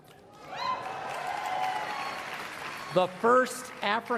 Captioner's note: applause